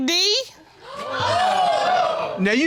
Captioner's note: audience gasps